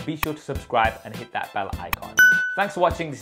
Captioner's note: bell dings